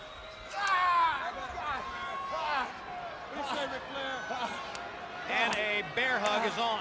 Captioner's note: crowd chatter